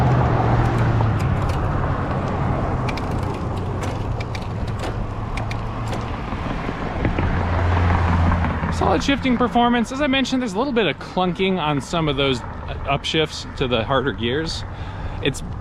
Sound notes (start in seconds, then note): 0.7 car engine roaring; 4.3 gears clunking; 6.4 air whooshing